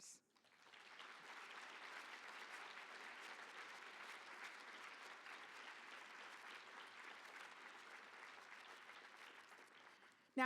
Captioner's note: applause